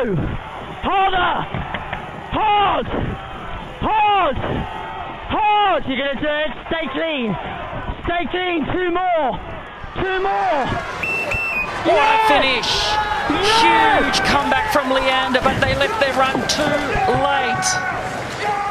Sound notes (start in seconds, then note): 10.9 finish buzzers; 12.5 cheering